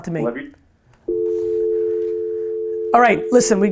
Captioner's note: dial tone